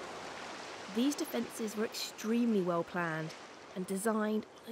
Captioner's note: waves crashing